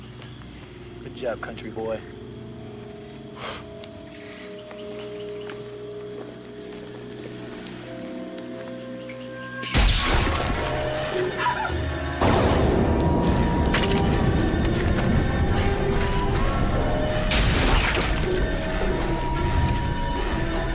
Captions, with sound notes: Good job, country boy. (Screaming)